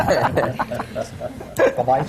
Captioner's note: laughter